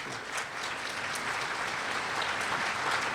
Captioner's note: applause